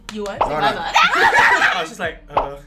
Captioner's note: laughter